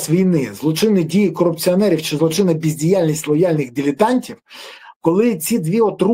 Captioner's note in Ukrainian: сопіння